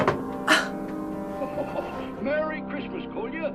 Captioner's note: Angelica scoffs